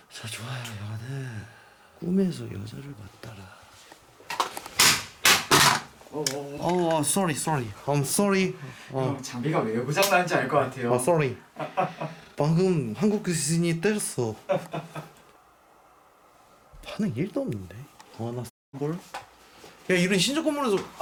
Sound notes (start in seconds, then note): 4.3 The sound of dropping the EMF measurement; 11.6 laugh